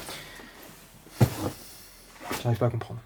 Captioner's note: sighs